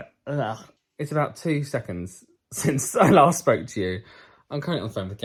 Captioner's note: laughs